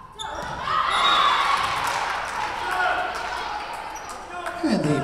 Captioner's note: whistle blowing